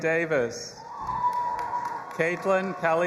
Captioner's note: audience applauding and cheering